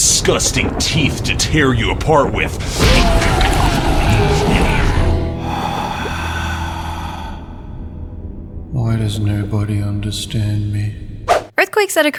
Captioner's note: sigh